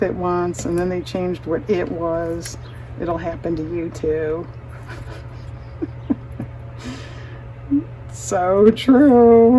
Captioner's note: laughs